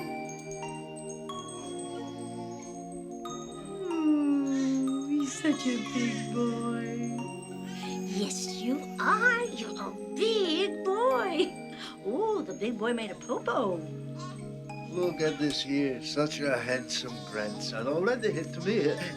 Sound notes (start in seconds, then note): 3.8 Seymour crying